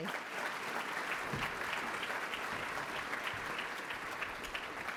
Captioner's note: applause